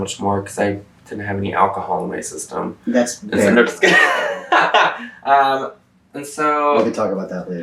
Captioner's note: laughs